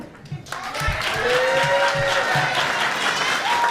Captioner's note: cheers and applause